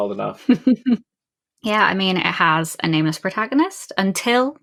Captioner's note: laughs